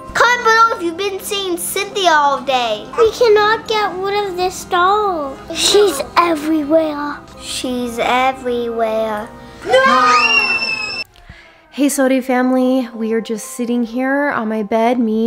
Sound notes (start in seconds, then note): 9.6 everyone screaming